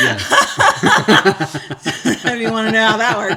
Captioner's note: laughing